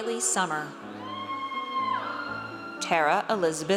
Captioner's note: audience cheers